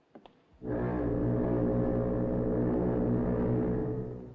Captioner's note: foghorn Blows